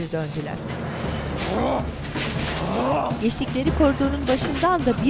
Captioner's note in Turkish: Bağırma sesi